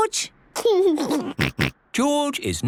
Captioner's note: giggles